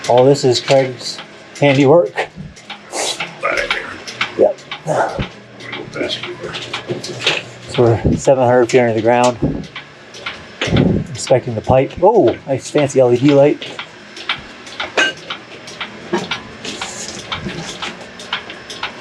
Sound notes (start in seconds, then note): 14.5 rhythmic clunking sound